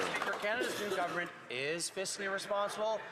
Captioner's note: applause